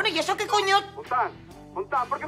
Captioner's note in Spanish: Walkie talkie